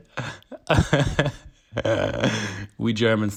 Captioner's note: laughs